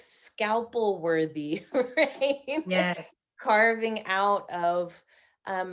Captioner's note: laughing